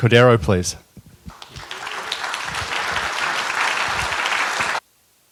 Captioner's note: applause